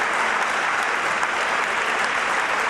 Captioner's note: applause